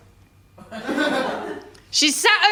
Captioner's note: laughter